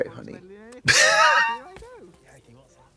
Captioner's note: Trixie smooches; Katya smirtles